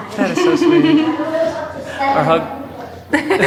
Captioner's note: giggles